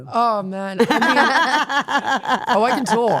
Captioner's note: Stephanie and Elyse laughing